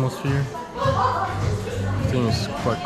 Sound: people laughing

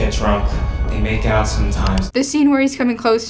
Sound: computer click

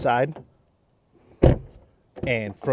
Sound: car door thuds

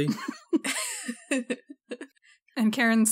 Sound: laughs

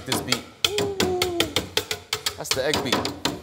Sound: whisk clanking

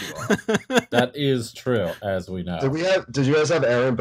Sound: laughter

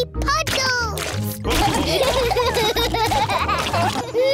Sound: laughter

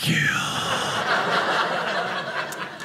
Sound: audience laughing

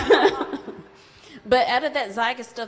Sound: audience laughs

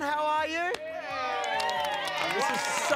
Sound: cheering

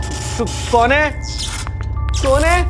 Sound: short circuit; short circuit

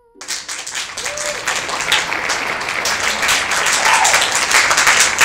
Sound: applause

